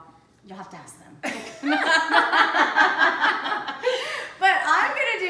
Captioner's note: laughter